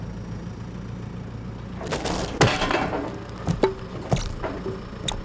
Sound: wood rolls

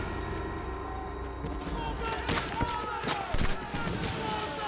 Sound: men yelling

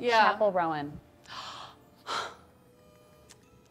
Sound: gasp

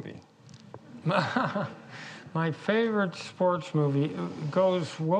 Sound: laughs

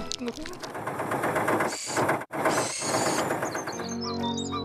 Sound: engine Running; birds Chirping

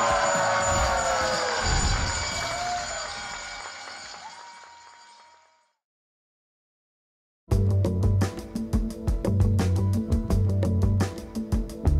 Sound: cheers and applause

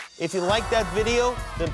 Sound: cheers and applause

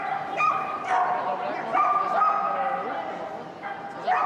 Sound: dog barking

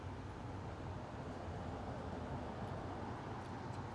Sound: low hum of traffic

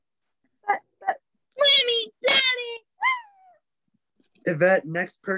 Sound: whimpers

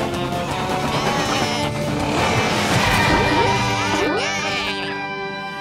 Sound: baaing

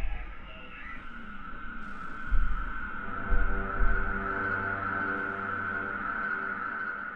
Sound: siren noises grow in volume

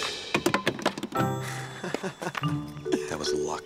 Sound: laughs

